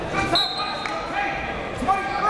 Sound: coaches yelling; whistle blows; crowd talking

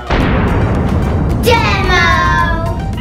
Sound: explosion sound effect

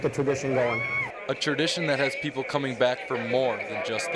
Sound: voiceover

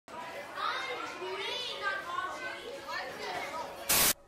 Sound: crowd chattering

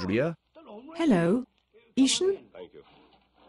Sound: PHONE RING : TV on with Cowboy dialogue

